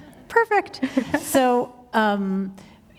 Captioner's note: chuckle